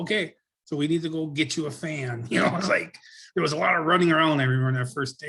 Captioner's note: laughs